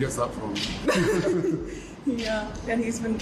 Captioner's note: Meghan and Harry laugh